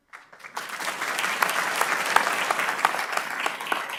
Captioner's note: audience clapping